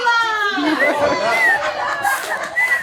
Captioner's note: more laughter